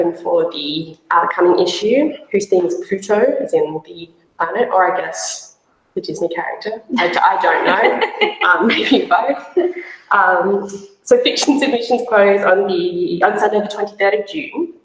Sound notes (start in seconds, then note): 7.0 laughs; 7.4 chuckles